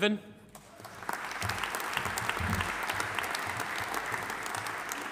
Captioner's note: audience applauding